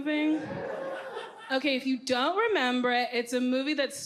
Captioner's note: audience cheers